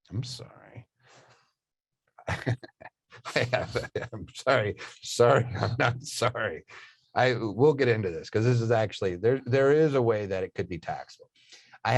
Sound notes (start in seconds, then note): 2.2 chuckling